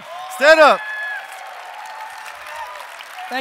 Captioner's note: audience applause